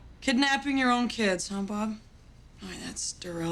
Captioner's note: none